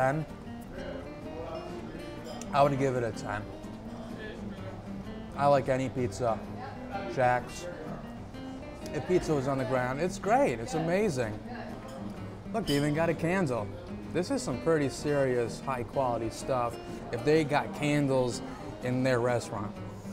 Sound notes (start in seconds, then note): none